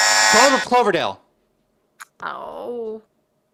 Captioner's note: buzzer